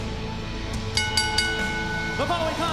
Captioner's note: bell ringing